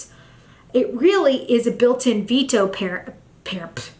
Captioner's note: stammers